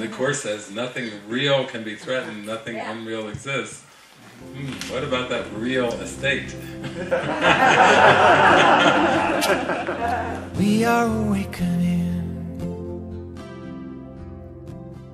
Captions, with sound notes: And the Course says, "Nothing real can be threatened, nothing unreal exists." Hmm what about that "real estate"? [Everyone Laughs]